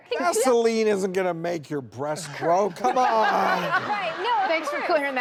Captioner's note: audience laughing